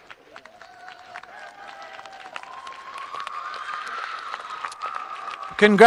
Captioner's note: audience applauding and cheering